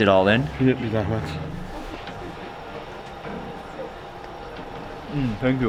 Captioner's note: speaks in foreign language